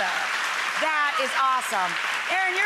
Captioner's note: applause